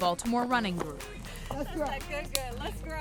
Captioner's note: high-fives